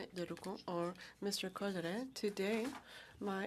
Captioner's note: speaking french